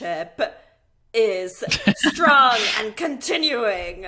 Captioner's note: laughing